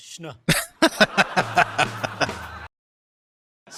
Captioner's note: laughing